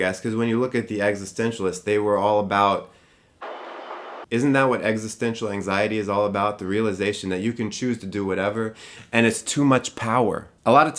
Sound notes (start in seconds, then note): 3.3 white noise